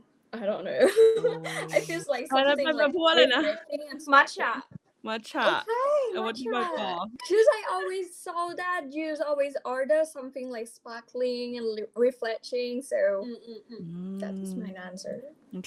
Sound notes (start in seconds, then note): 6.4 in Thai